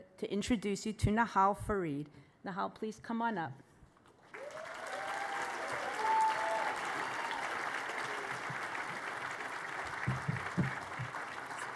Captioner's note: applause